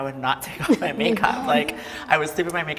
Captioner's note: everybody laughs